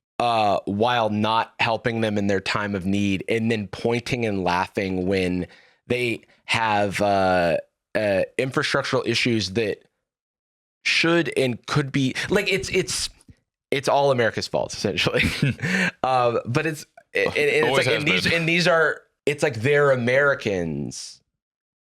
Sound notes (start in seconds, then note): 15.2 laughs